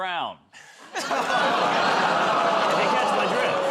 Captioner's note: laughter, groaning